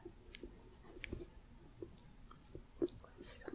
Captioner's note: light tapping